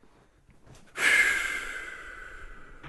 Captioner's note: breath